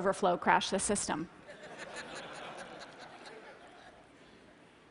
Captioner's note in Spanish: Risas